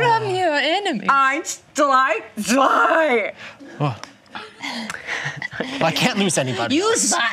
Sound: counts to three in German

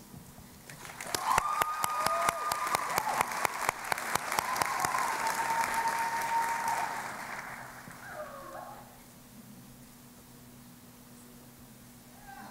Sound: cheering and Applause

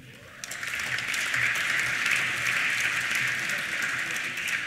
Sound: applause

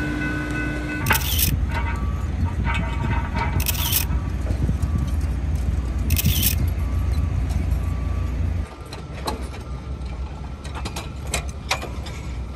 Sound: sound of construction workers setting girder and camera shutter clicking

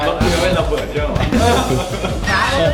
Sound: awkwardly chuckles

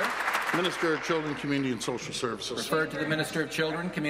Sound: applause

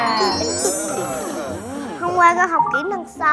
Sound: A dining room full of laughter

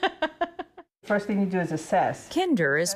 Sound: laughter

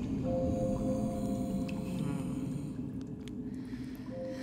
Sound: ominous humming

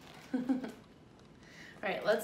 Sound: laughs

